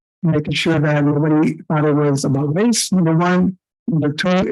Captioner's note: audio echoing and staticy